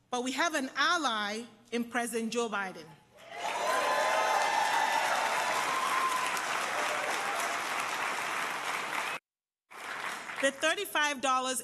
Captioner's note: applause